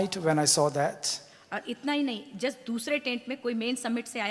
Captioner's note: speaks foreign language